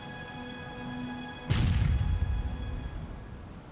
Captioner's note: explosion